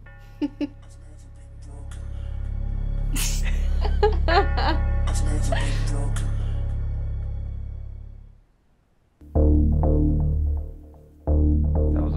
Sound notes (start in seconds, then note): 3.1 pair laughs; 3.3 dramatic music; 9.3 dramatic menacing music